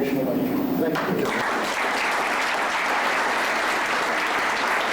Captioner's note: applause